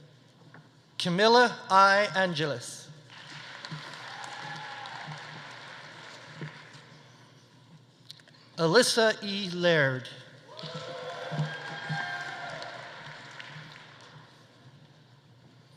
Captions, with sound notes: Camilla I. Angeles. (audience applauding) (audience cheering) Alyssa E. Laird. (audience applauding) (audience cheering)